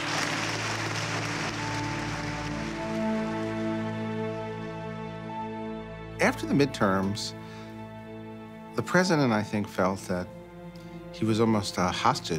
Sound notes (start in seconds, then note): 1.9 audience applauding